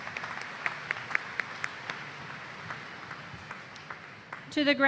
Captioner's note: applause